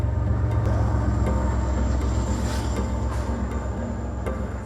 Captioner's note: train chugging